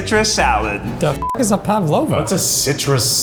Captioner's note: beep